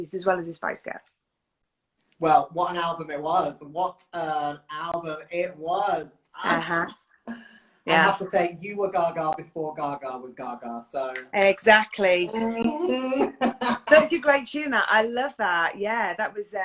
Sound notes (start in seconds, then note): 11.1 clicks fingers; 12.3 laughs